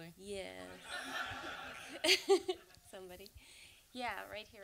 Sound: and audience laughs

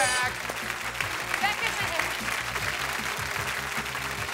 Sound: audience applauds

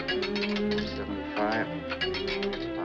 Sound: coin clatters

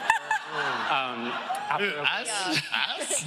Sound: laughter

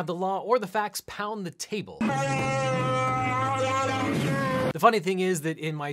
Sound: Chewbacca wailing

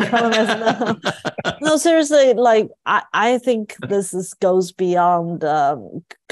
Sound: laugh

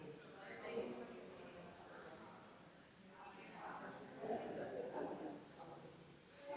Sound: people chattering distantly continues

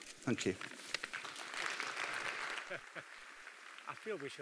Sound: applause

